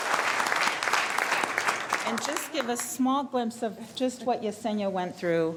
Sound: applause

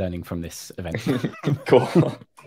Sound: laugh

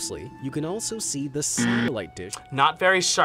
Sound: buzzer rings

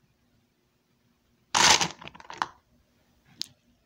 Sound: Lego Sound

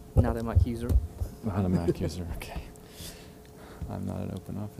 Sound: laugh

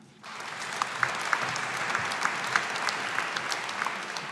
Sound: audience applauding

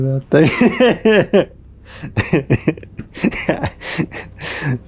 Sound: speaker laughing

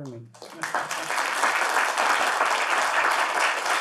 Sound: audience clapping

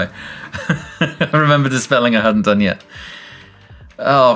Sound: laughs

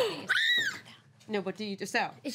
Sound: girl screams

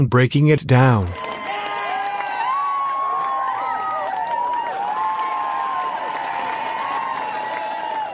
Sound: audience cheering with laughter, clapping and wooo's

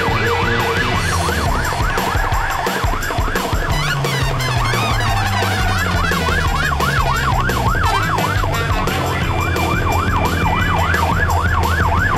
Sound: sirens, tires skidding, music ends

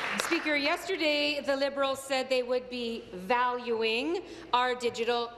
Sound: applause

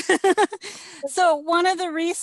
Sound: laughs

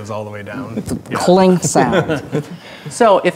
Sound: laughing

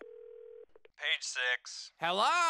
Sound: on phone

